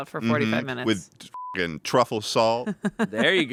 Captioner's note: beep